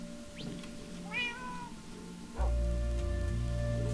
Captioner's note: cat meows